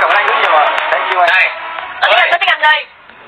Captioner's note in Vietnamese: Vỗ tay